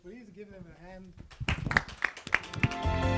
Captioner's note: applause